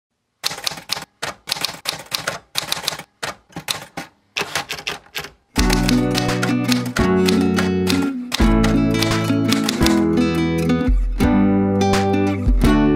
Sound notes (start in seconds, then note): 0.4 sound of typing